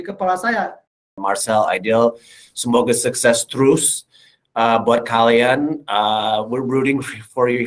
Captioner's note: non-english speech